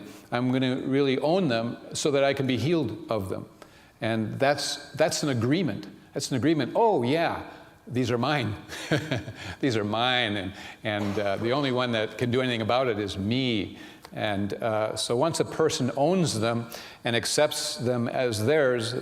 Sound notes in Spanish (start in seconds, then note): 7.9 riéndose